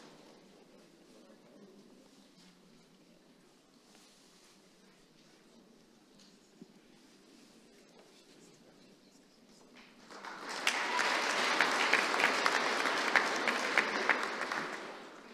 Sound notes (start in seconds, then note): 1.9 applause